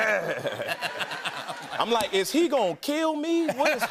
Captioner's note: normal voice